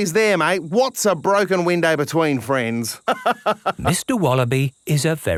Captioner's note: laughs